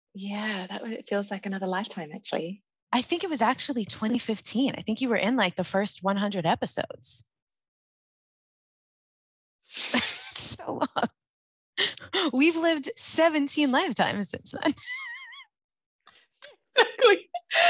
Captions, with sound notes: - Yeah, that feels like another lifetime actually. - I think it was actually 2015. I think you were in like the first 100 episodes. (both laugh) So long. We've lived 17 lifetimes since than. (laughter continues)